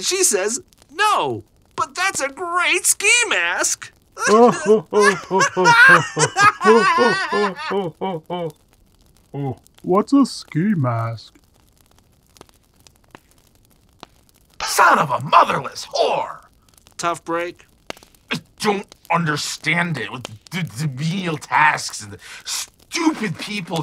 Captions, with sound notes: and she says, "No but that's a great ski mask!" *Laughing* What's a ski mask? Son of a motherless whore! Tough break? I don't understand it with the menial tasks, and the stupid people